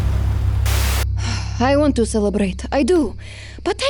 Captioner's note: sighs